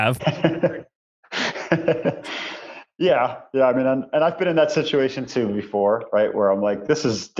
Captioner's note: laughs